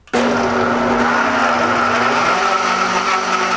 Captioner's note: whirring